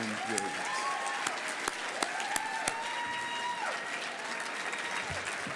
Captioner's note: audience cheering and applauding